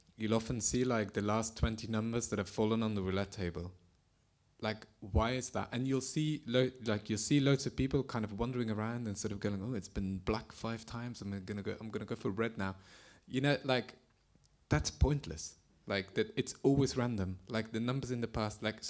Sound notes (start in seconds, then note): none